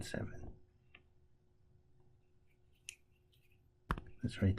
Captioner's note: tapping Sounds